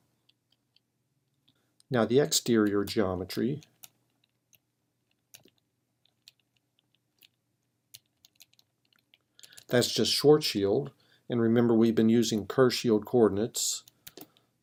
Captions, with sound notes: Now the exterior geometry -- [ Typing ] -- that's just Schwarzschild, and remember we've been using curve shield coordinates.